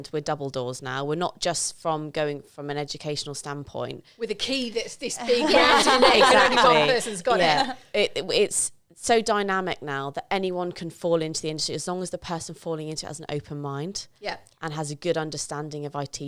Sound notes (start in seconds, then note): 5.2 laughing